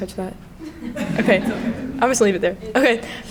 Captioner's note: crowd laughing